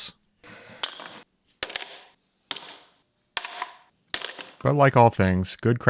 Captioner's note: several metal parts clanking